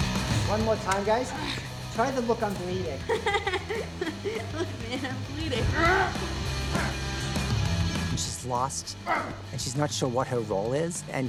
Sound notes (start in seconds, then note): 3.2 laughs; 6.1 strains, grunts